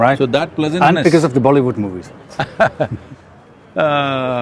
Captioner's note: Sadhguru laughs